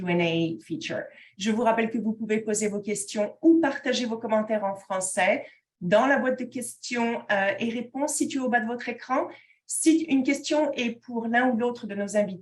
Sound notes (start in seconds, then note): 1.4 speaking in French